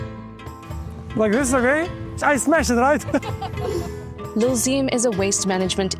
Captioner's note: speaking in foreign language